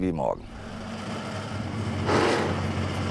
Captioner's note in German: Motorrattern